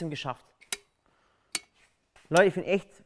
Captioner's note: Klicken